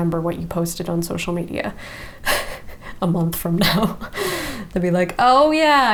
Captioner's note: chuckles